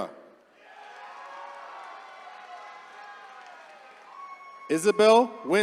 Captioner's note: attendees cheering